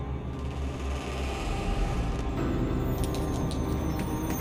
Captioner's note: door creaking